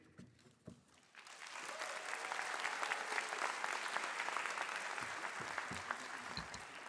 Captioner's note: applause